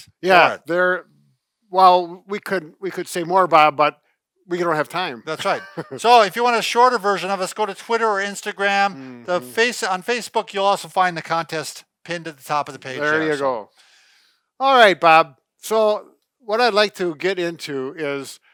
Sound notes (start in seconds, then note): 5.3 laughs